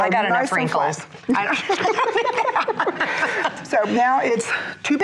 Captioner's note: laughs